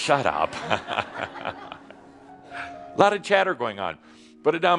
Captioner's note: laughter